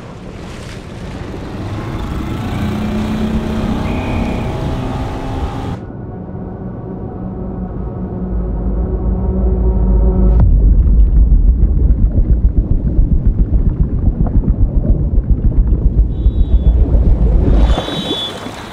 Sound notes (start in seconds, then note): 0.0 water splashing; 2.3 boat engine whirs; 3.7 whistle blows; 8.4 tense music; 10.6 water gurgling; 17.5 whistle blows